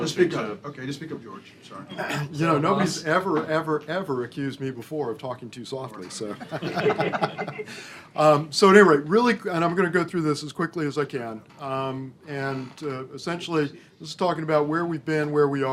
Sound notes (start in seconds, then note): 6.2 laughter